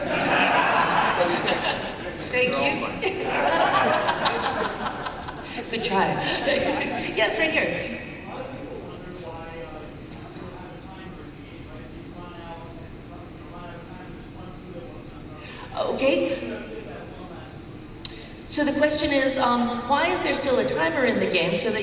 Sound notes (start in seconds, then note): 0.0 laughter